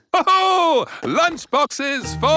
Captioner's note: laughs